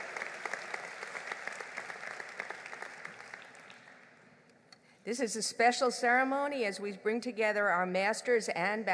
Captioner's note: applause